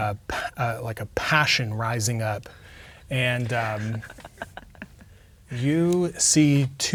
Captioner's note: players laughing